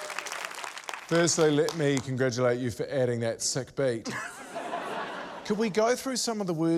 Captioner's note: laughter